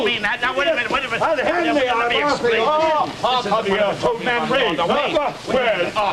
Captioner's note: arguing